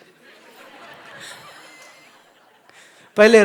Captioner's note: Audience laughs, GuruJi laughs